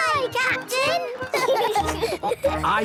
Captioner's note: laughing